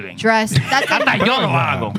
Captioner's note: speaking Spanish